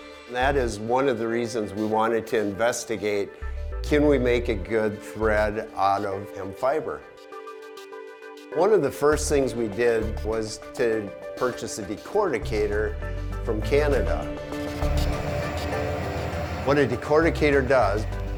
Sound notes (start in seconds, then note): 14.6 machine whirring